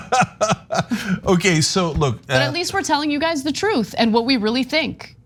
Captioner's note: laugh